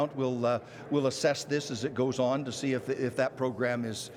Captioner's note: shouting